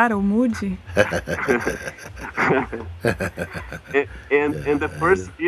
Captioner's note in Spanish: risas